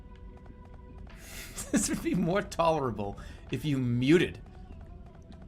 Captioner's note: bursts out laughing